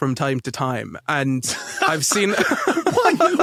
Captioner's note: blurts laugh